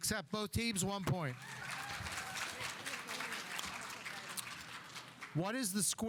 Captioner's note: audience applauding